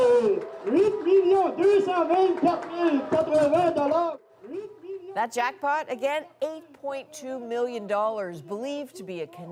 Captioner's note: cheers and Applause